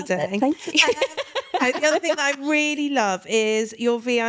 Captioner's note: laughing